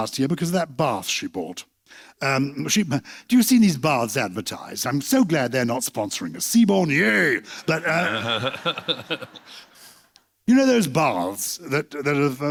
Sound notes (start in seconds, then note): 7.7 laughter